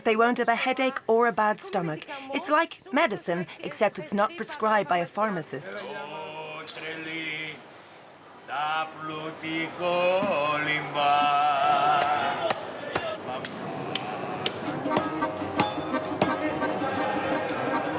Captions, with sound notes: "they won't have a headache or a bad stomach. "It's like medicine, "except it's not prescribed by a pharmacist." (singing in foreign language) (meat cleaver pounding) (lively folk music)